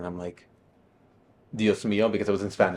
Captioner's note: speaking in a foreign language